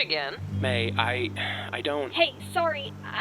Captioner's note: sighs